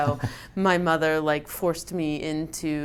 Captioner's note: chuckles